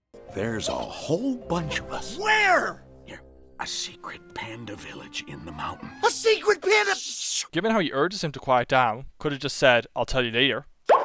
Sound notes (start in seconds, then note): 3.6 whispering; 6.1 yelling